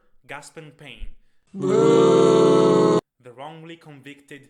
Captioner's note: crowd boos